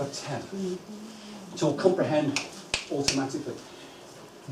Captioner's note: clicks fingers